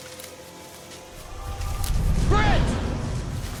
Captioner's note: screaming